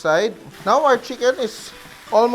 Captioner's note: sizzle